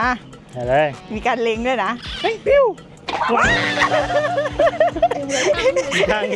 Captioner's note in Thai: เสียงหัวเราะ